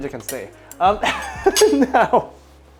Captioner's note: laughs